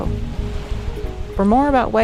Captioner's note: water splashing softly